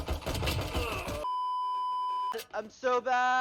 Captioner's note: beeps